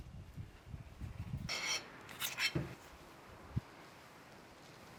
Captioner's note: spoon scraping